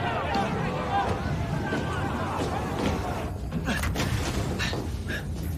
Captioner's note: crowd chattering